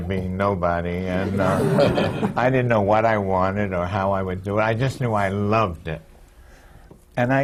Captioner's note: laughter